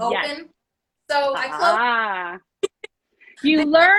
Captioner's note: chuckles